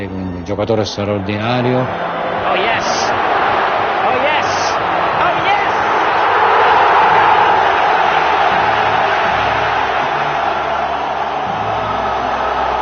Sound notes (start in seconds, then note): 6.7 crowd roaring